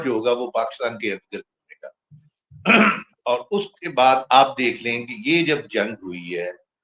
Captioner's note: clears throat